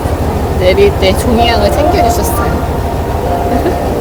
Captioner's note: laughs